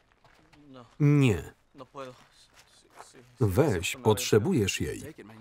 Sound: speaking in Spanish

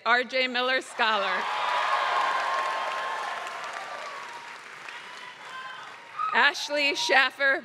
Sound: applause

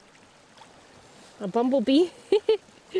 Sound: laughing

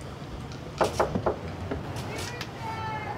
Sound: knocking

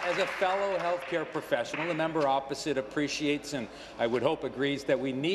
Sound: applause

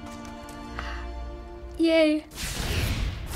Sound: tranquil music; small gasp

